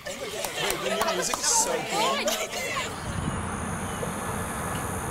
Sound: students chattering

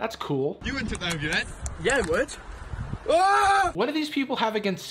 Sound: screams

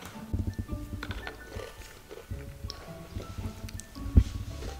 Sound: crunching

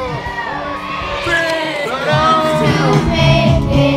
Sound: cheers

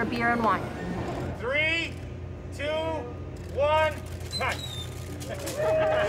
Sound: cheers

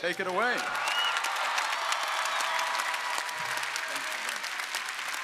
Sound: audience applauding

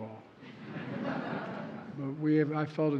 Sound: laughter

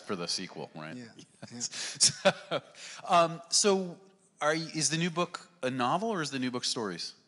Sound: laughing

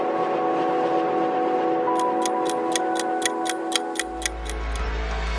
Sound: sound of the ticking clock

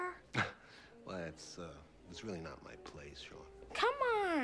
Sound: chuckles

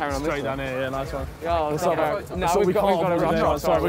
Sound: group chattering

